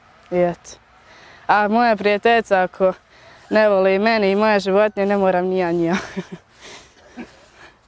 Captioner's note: laughs